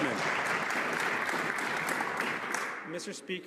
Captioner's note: some Applause